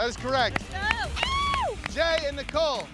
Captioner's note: shrieks